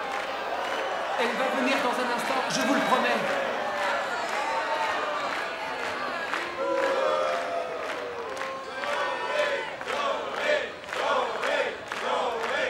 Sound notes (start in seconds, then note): 4.2 booing and clapping rhythmically; 9.5 chanting Zoe and clapping